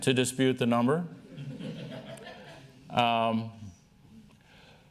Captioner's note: laughter